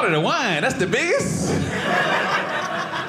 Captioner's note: audience laughing